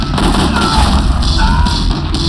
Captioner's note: screams